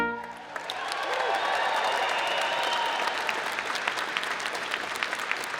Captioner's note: audience cheering and applause